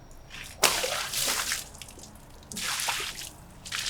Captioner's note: water splashes